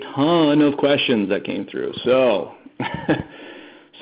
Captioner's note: laughing